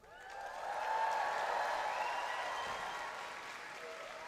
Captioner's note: audience cheering